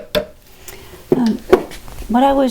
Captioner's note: taptaptaptaptap